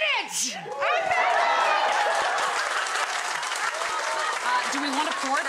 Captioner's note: audience clapping